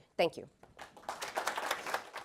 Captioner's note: applause